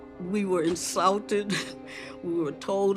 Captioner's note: laughs